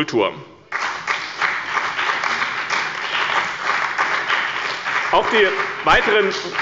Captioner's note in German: Beifall bei dem BÜNDNIS 90/DIE GRÜNEN und der CDU